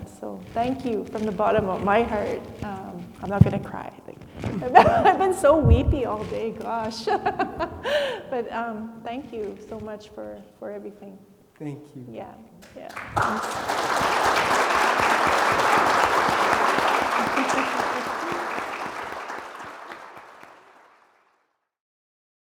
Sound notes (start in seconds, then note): 7.0 laughs; 12.6 attendees clapping; 17.2 chuckles